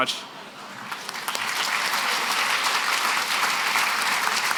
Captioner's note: applause